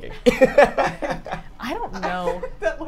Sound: all laugh

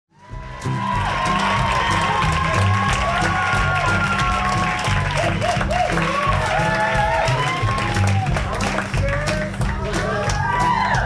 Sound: applause

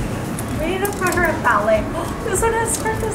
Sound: speaker 1 conversing quietly

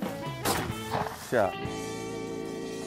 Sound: shot goes off; upbeat jazz music

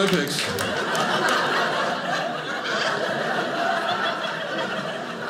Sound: audience laughing

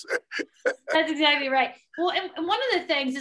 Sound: laughing

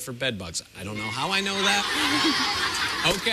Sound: laughter

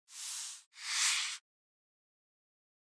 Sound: whoosh

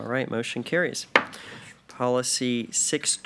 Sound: gavel knocks

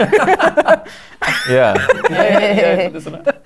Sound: laughter

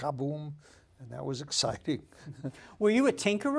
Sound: laughs

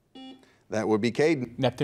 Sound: buzzer beeps

